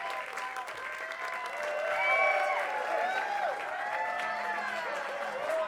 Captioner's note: attendees cheer and clap